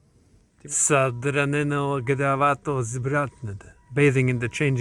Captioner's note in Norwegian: leser på bulgarsk